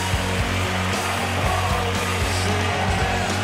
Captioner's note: audience applauding